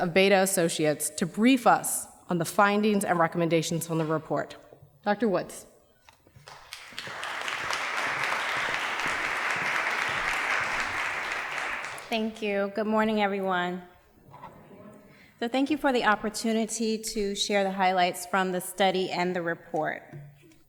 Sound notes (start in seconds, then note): 6.4 applause